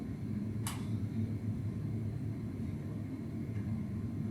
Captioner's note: light switch click